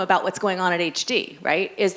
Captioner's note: none